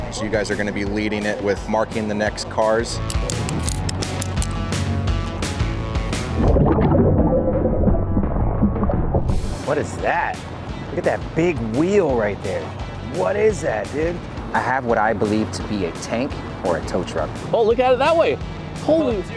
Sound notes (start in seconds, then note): 2.8 upbeat music; 3.1 clicking